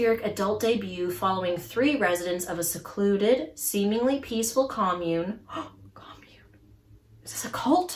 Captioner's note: gasps